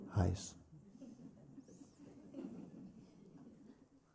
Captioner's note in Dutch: gelach